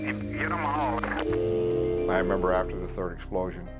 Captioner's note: phone line beeps